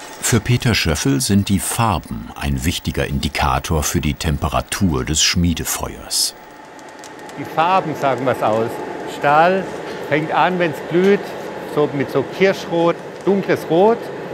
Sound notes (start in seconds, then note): 6.3 fire crackling